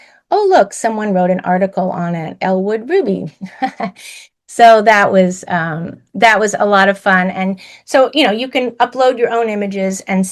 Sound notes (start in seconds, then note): 3.8 laughs